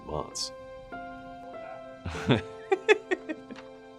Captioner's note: laugh